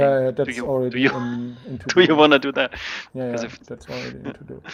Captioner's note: laughing